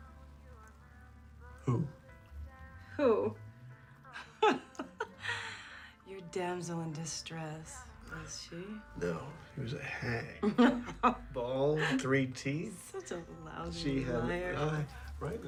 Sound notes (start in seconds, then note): 4.1 laughs